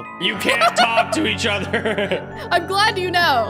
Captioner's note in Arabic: يضحك